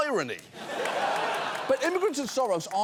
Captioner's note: audience laughing